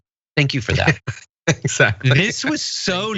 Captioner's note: laugh